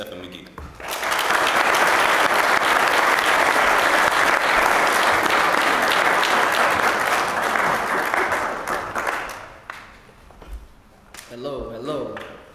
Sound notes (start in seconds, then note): 3.9 applause